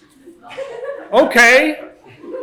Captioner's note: laughter